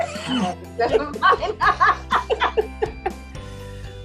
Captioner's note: laughter